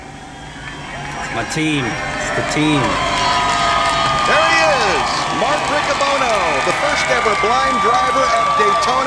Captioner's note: honking